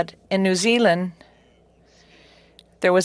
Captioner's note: speaking French